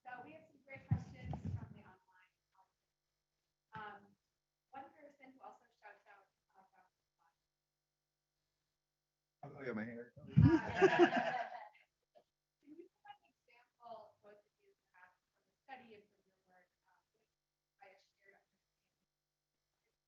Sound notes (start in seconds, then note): 10.3 audience laughing